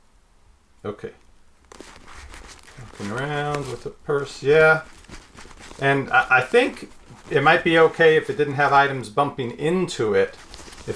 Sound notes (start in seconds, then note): 1.6 purse shuffling